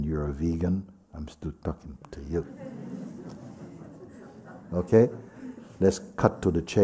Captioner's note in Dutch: gelach